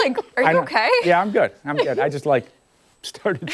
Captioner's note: laughter